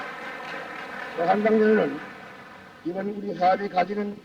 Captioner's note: audience applauding